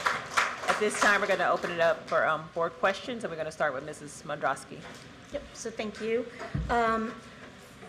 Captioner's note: applause